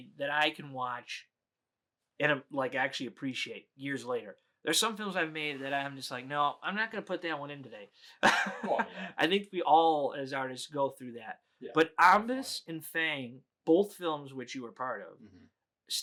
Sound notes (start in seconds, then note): 8.2 laughs